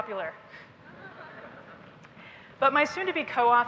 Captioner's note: laughter